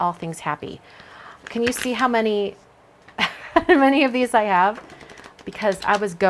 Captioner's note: laughs